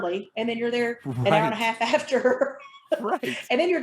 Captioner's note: chuckling